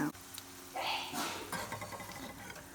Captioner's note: sneezes in the background